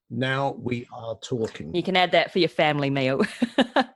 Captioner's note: laughs